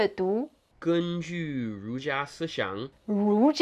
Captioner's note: speaking in Mandarin